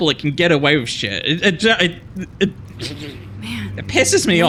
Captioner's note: stutters